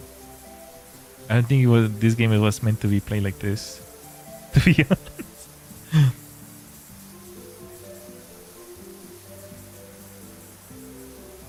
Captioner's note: laughter